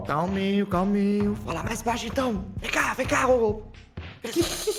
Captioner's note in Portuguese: sussurrando